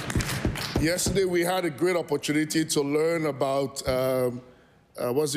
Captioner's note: cheering/Applause